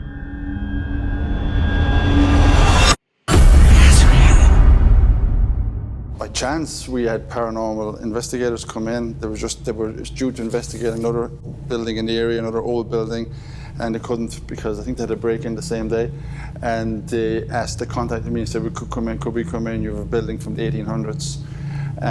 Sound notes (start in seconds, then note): 0.0 ominous music; 3.4 eerie whispering